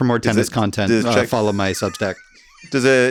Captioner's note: laughs